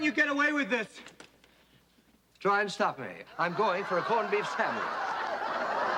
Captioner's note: laughter